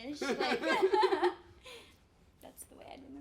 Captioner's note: laughs